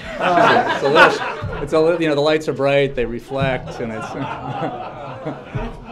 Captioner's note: laughter; laughter